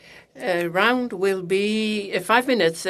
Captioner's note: speaking French